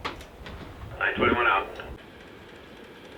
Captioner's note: radio